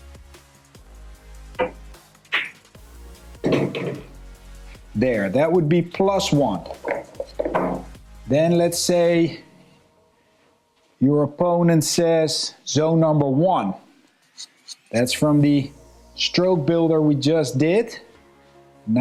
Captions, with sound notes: (lively music) (balls clanging) There, that would be plus one. Then let's say your opponent says zone number one. That's from the stroke builder we just did.